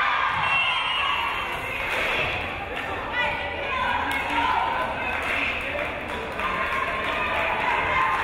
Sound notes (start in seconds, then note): 1.6 whistle blows